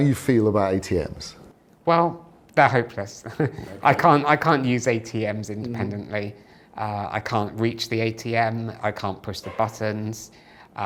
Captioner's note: laughter